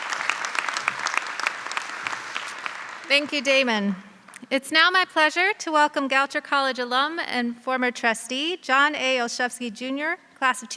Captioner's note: applause